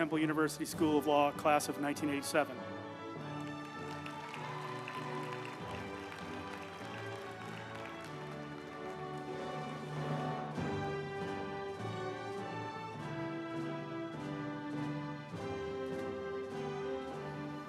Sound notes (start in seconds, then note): 3.2 group applauding; 3.5 uplifting music